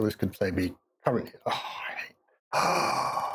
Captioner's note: sighs